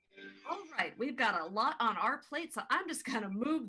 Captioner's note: American accent